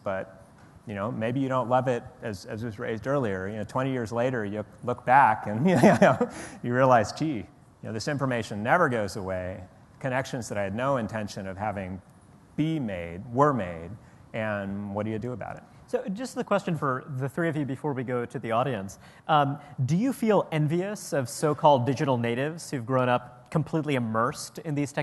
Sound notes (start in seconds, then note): 5.6 laughs